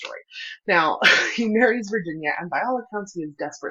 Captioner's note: laughter